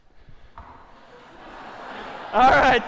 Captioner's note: laughter